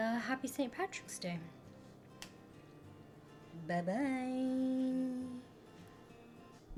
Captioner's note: snaps fingers